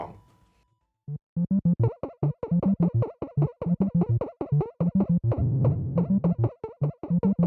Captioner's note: Donkey Kong sounds